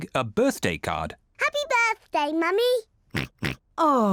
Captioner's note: oinks